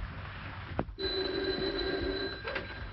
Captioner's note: phone rings